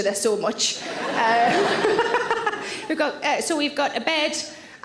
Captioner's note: audience laughs; Sarah laughs